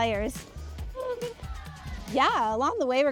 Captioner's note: cheering